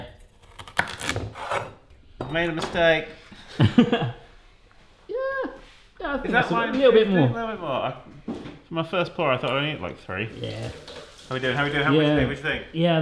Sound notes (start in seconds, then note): 3.5 chuckles